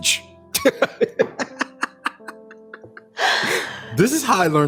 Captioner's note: both laughing